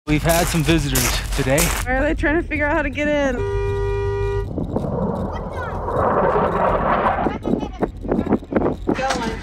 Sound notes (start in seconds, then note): 3.2 car horn blares; 4.4 jet engine roaring